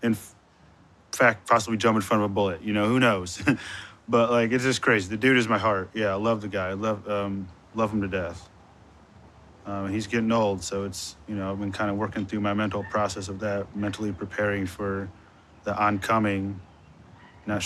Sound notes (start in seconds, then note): 3.1 chuckles